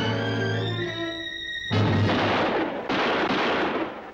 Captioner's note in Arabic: طلقات نارية